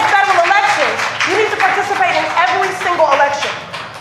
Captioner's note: applause